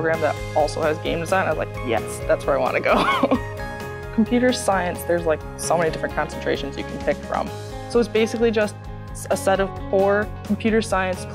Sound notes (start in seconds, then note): 2.9 chuckles